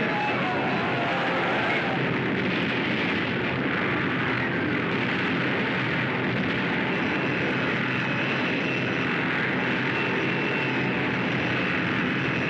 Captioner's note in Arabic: اصوات الفوضى والدمار; انفجارات